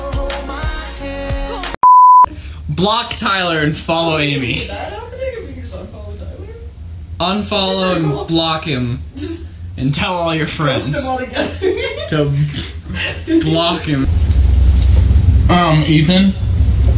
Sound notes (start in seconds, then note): 1.8 beep